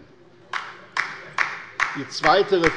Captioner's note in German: Beifall bei der LINKEN